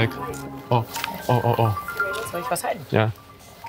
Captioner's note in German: Handy klingelt